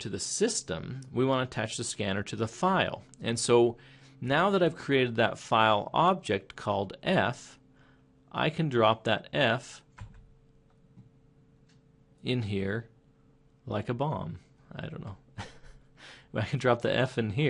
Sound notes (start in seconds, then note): 15.3 chuckling